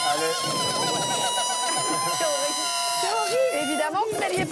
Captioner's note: sound of balloons deflating